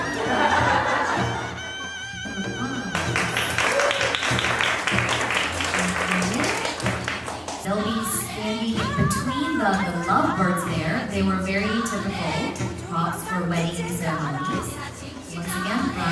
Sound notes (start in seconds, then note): 0.0 group laughing; 2.8 group applauding